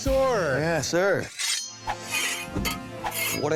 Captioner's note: swords clanging